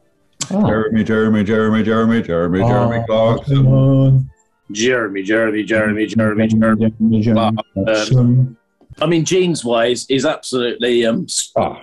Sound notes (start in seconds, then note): 4.6 low voice